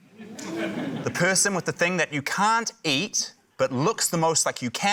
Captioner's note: audience exclaims